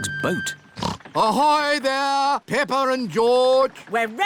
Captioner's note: snorts